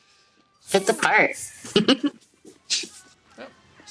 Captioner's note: laughs